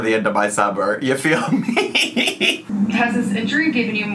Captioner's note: laughs